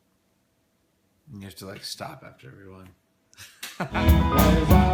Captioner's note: laughs